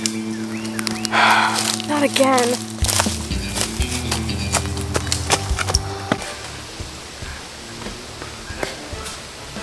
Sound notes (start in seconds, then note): 1.0 exhales; 6.7 dramatic music